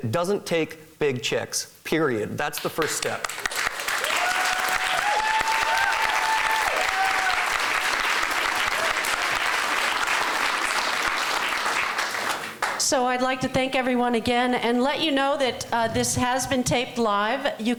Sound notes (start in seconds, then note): 3.8 applause